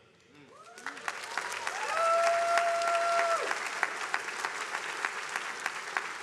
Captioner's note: attendees applauding